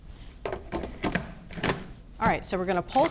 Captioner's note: lid closing